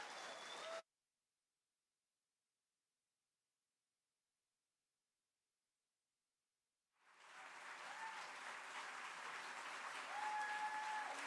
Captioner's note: applause